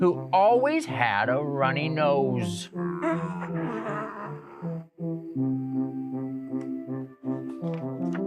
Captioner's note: nose blowing noise